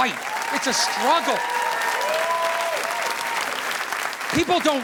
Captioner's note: audience applauding